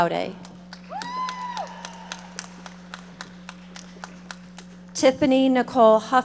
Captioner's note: audience applauding